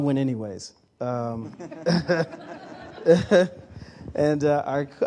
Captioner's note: laughter